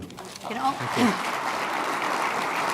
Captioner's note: applause